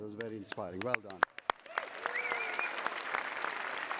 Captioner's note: cheering